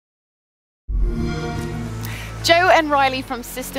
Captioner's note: xbox sound